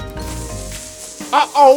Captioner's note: dynamite hissing